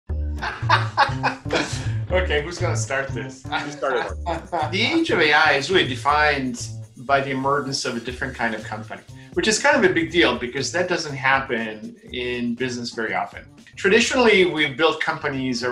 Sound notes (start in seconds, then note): 0.0 upbeat music; 0.4 laughter